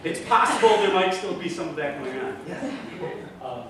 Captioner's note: laughter from audience